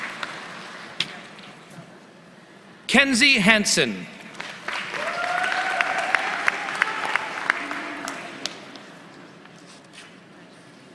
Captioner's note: applause